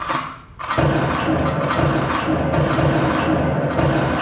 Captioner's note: gun chambering a round; gun shots